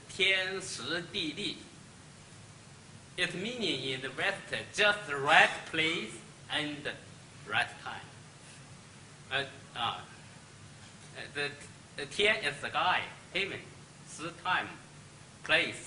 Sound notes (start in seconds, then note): 0.0 speaks Chinese; 9.5 speaks Chinese